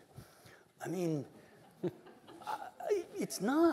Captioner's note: chuckling